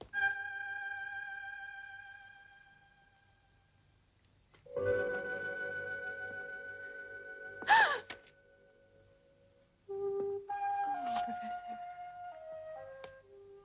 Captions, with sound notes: (light dramatic music) (Priscilla gasps) - Oh, Professor.